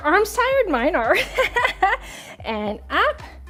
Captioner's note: laughs